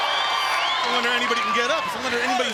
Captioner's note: crowd cheering